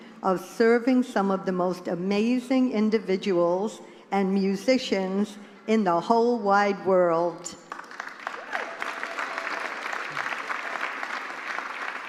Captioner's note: applause